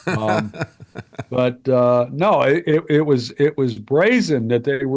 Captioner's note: laughing